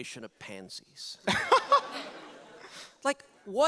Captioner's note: audience laugher